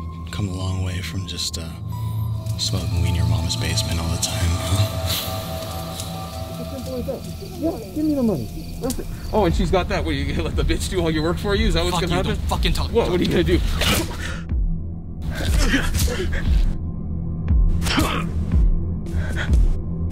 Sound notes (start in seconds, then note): 13.9 grunts; 15.2 men grunting, Turtledove gasps; 17.9 grunts